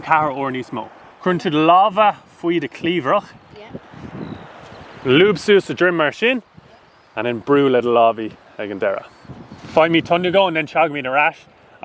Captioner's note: speaking Irish